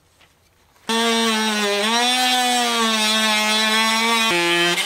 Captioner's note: power tools buzz